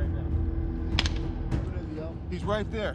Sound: gunfire

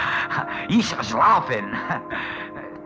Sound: German language

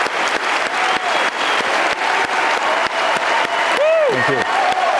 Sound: audience cheering continues

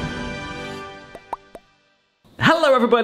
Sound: upbeat music; logo popping

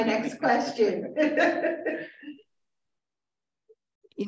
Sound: chuckles

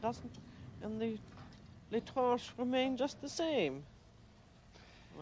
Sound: speaking French

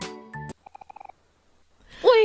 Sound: music abruptly stops

